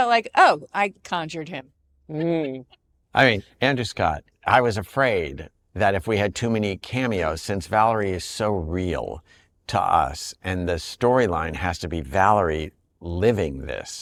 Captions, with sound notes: "Oh, I conjured him." -Mm. -(LAUGHS) I mean, Andrew Scott, I was afraid that if we had too many cameos, since Valerie is so real to us, and the storyline has to be Valerie living this,